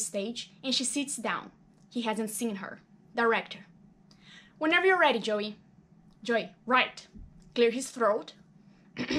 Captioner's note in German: räuspert sich